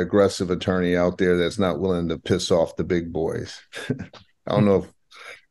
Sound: chuckles

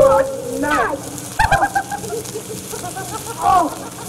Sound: laughter

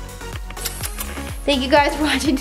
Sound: kiss noises

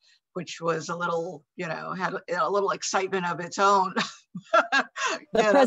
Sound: laughs

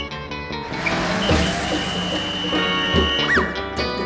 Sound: whistle blowing, music playing

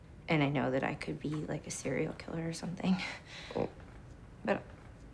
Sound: none

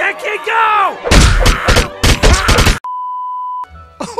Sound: objects Thrown, Screaming; chuckling

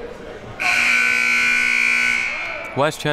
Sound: siren buzzing

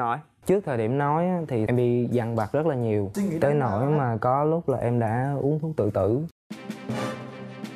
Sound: huu

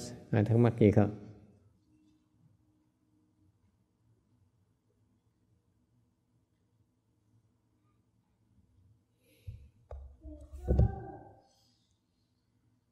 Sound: silence

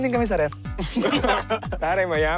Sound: laughter

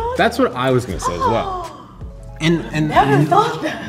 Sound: laughing; woman gasping

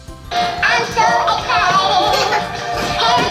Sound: the chick continues to sing

